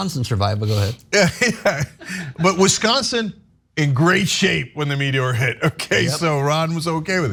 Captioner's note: laugh